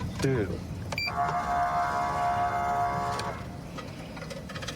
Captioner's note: horn blaring